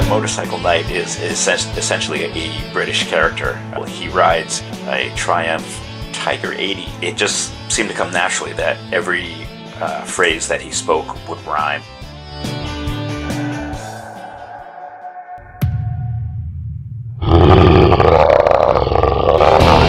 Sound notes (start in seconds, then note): 13.3 howl in the distant woods; 15.4 slam!; 17.2 growl!